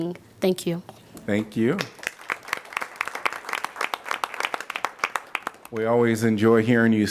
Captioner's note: applause